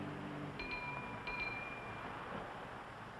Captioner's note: bell dings